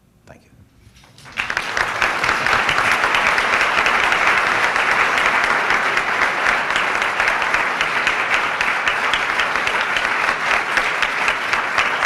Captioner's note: applause